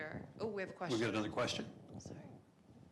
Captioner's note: voiceover